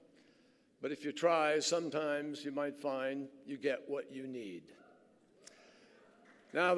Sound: applause

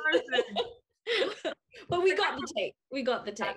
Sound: laughing

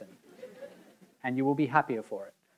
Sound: audience members laughing

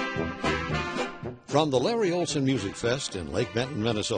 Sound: voiceover

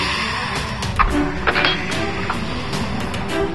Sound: screech; door closing; breathless

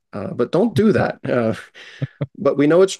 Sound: chuckles

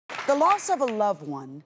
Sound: applause

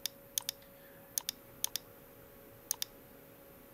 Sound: mouse clicking

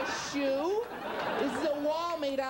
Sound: audience continues laughing

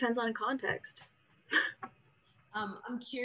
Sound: laughs

